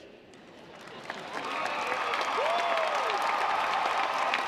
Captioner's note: audience applauds